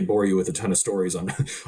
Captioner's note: chuckling